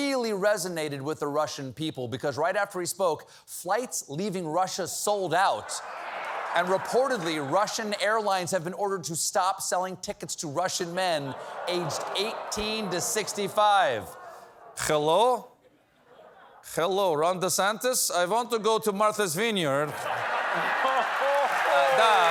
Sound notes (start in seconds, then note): 15.7 as russian, on phone